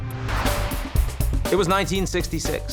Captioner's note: air whooshing